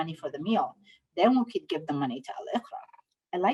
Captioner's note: speaking Somali